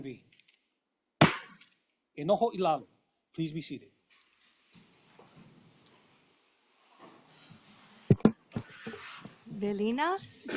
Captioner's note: gavel bangs once